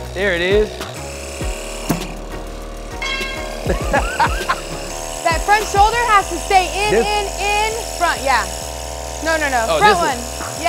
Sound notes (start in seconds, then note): 3.0 metal clanging; 3.6 laughs